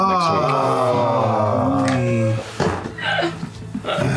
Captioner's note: groaning